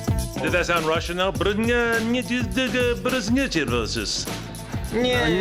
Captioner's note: speaks Russian-accented gibberish